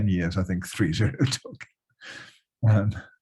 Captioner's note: laughs